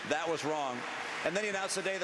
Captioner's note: applause